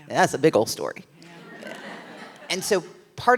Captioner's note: laughs